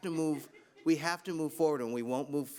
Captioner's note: laughs